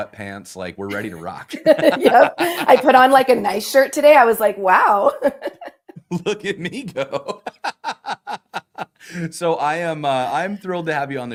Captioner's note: laughter